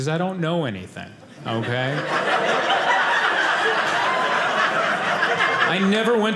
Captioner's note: audience laughing